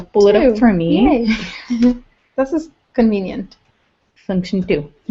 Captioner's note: laugh